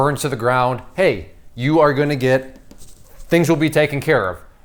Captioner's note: thumbnail taps